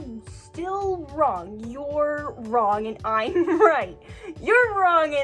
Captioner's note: giggling